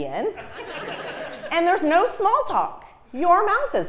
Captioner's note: laugh